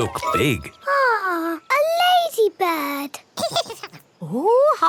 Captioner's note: giggles